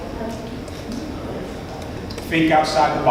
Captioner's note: audience mumbles